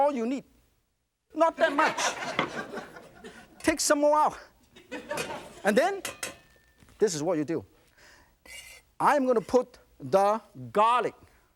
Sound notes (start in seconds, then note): 1.5 laughter